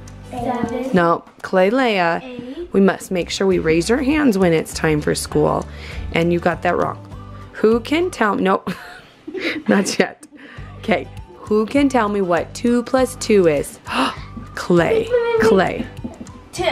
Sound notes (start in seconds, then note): 9.2 laughs; 13.8 gasps